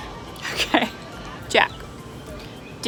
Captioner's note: laughing